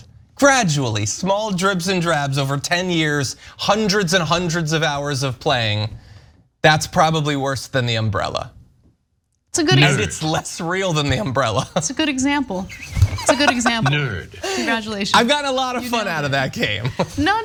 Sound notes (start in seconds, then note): 9.7 laugh